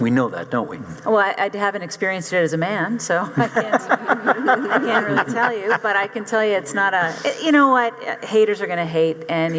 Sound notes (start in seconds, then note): 3.3 audience laughing